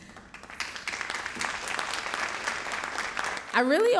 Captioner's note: audience applauding